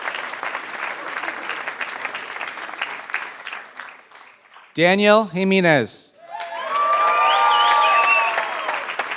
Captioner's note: applause